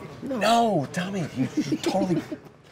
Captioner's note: laughter